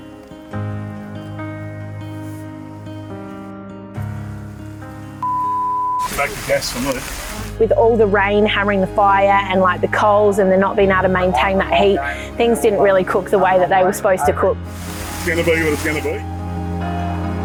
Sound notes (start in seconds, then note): 0.7 piano music; 5.2 beep